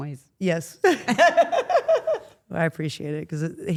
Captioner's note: Steph laughs